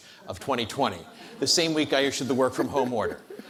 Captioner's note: audience laughs